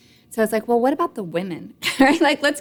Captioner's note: laughs